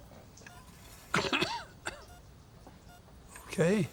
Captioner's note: coughing